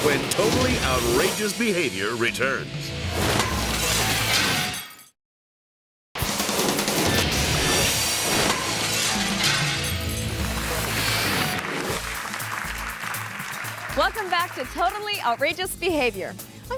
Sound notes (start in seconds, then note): 3.2 upbeat music continues; 3.9 glass shatters; 6.2 upbeat music; 8.0 glass shatters; 10.4 audience applauds